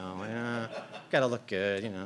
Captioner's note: laughter